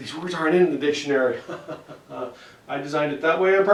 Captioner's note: nefarious laugh